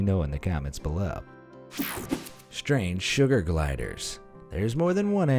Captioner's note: air whooshing